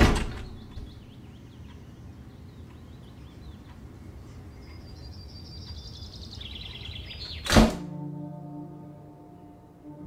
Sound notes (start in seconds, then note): 0.0 door closing; 7.4 door closing